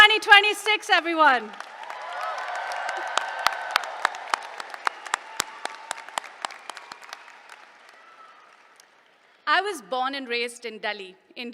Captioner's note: applause